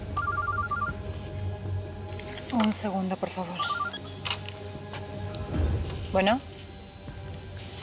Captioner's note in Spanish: suena un celular